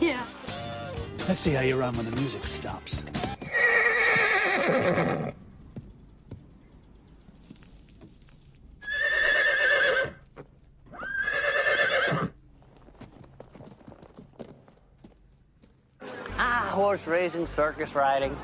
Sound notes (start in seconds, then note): 3.2 neighs; 8.8 neighs